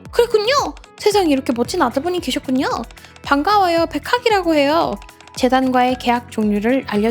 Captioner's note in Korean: none